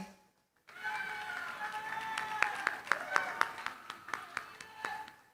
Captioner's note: cheering, applause